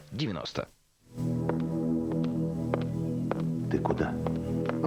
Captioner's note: calm music; click of heels